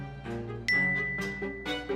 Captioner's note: notification dings; gentle dramatic music continues